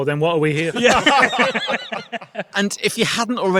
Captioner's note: group laughing